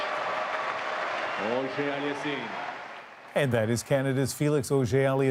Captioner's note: cheers and Applause; applause